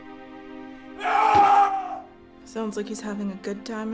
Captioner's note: Derek screaming